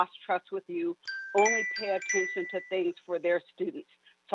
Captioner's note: chime